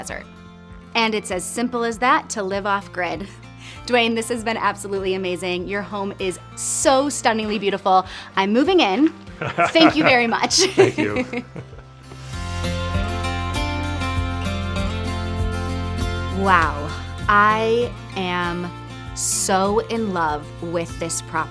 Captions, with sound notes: And it's as simple as that to live off grid. Dwayne, this has been absolutely amazing. Your home is so stunningly beautiful. I'm moving in. Thank you very much. - (laughs) Thank you. (mellow country music) - Wow, I am so in love with this property.